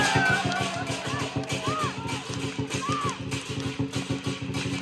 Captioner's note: she shout out loud